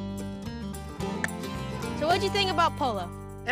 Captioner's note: imitates ball hit